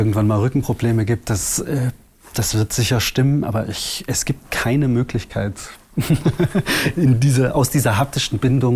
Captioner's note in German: lacht